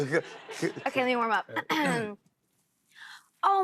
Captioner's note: clears throat